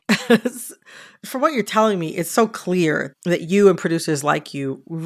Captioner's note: laughter